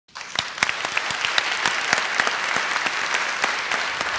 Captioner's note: applause